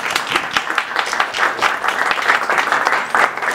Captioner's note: applause